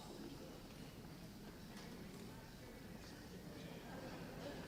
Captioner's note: audience chatting